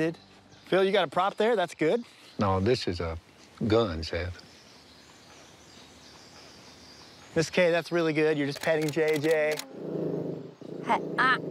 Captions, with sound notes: Phil, you got a prop there. That's good. No, this is a gun, Seth. Miss Kay, that's really good. Just petting JJ. [JJ growls] Hey, ah.